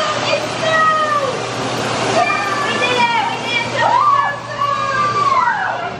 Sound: kids whooping and hollering

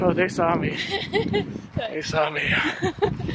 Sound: laughs

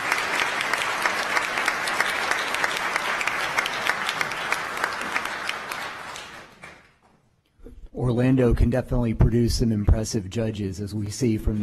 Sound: applause

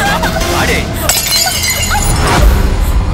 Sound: cup shatters

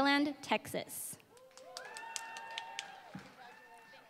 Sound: applause

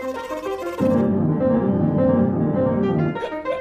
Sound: jaunty piano music; clown yips softly; jaunty piano music; clown yips softly

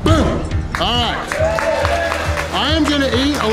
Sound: crowd clapping and cheering

